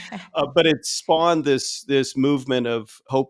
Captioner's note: laughing